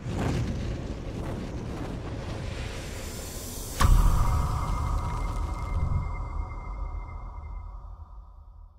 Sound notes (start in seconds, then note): 0.0 graphic whooshing; 3.7 graphic booming